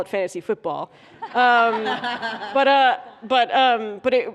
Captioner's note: laughter